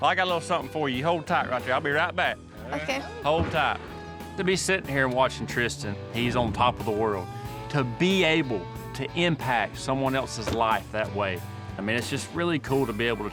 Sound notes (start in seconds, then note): none